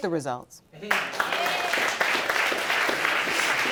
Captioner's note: audience applauding